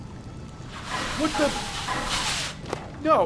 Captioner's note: piping noise